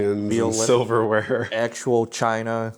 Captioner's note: laughing; pat